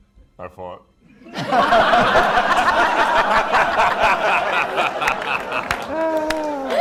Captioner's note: laughter